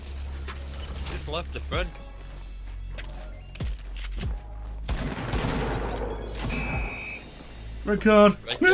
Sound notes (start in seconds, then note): 4.8 gunfire